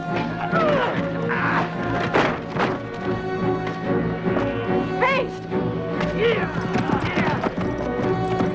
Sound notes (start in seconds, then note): 0.5 Hundra grunts; 0.5 guard shouts; 5.1 Hundra grunts